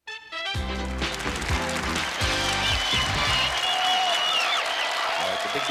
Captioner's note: applause and cheering